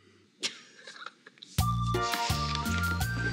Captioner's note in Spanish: risas